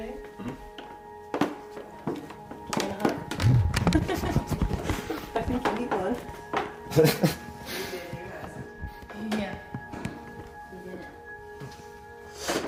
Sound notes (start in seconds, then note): 3.6 laughs